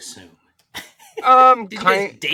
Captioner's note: both laughing